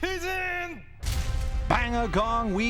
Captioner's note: gong